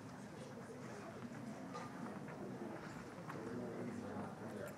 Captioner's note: crowd conversing